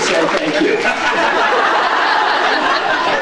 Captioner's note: applauds; laughs